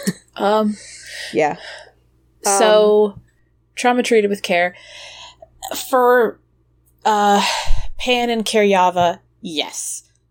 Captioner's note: sighs